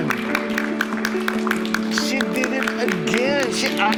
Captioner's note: applause